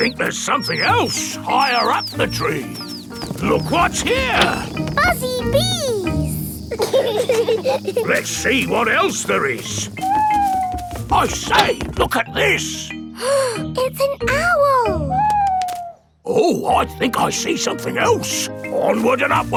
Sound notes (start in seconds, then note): 7.2 bees buzzing; 10.6 owl hooting; 13.7 gasps